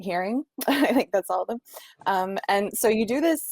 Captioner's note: chuckling